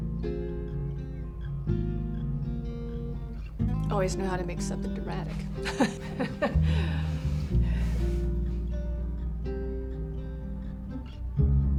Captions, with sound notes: Always knew how to make something dramatic. [both chuckle]